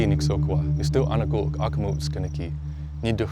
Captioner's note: speaking Blackfoot language